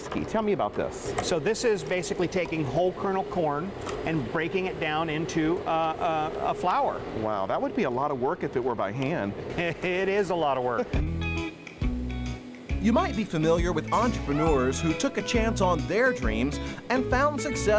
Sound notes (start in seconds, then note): 9.5 laughs